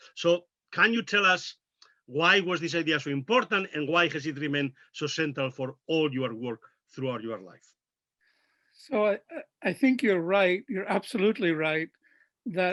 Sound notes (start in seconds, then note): none